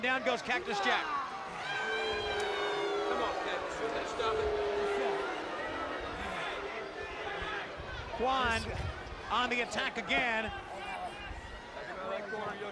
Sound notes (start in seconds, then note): 1.2 crowd cheering